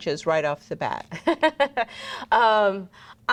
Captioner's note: laughs